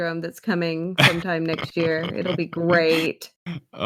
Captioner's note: laughs